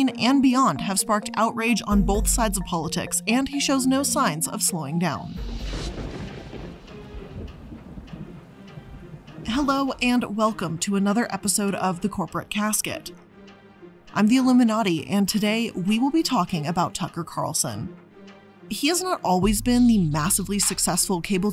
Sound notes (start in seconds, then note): 5.3 thunder crashes